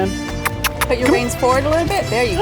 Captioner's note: smooches